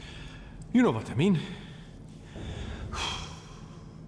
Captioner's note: exhales